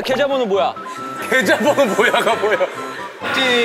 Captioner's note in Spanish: Ja ja ja ja ja